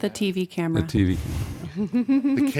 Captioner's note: laughter